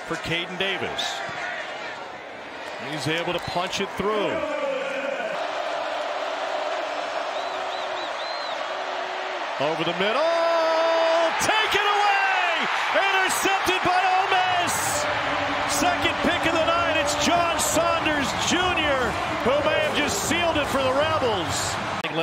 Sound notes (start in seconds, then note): 4.5 crowd